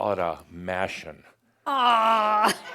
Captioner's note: she giggles